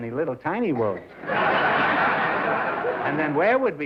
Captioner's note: laughter